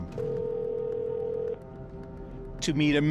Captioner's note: phone ringing